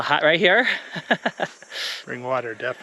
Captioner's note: giggles